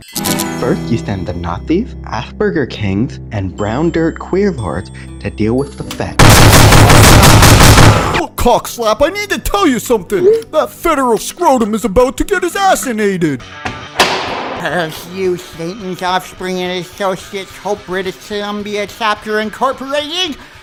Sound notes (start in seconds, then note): 6.2 gun fire; 13.6 cell doors clang shut